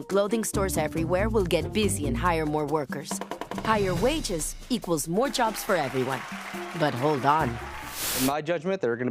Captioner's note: applause